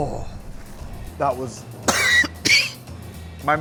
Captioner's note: coughs